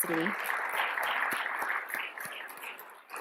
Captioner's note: applause